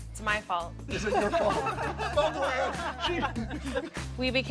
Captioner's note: laughing